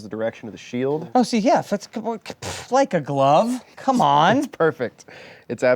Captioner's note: stutters